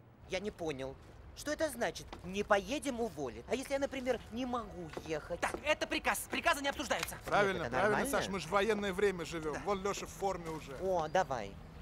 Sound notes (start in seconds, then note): 7.3 with irony